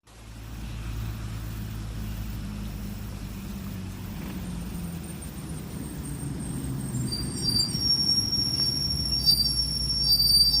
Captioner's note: rain, fireflies, and bus braking